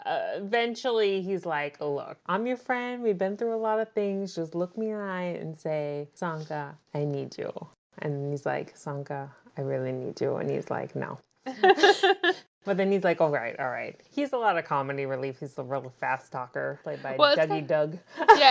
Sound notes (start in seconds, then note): 11.5 laughs